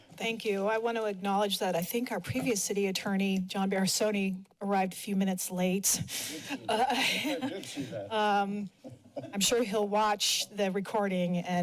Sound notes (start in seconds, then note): 6.5 laughter